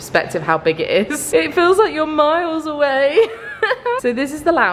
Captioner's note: laughs